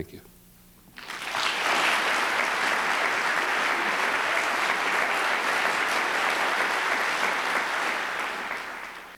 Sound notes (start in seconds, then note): 0.9 applause